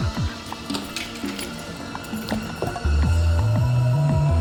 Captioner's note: lock clicks open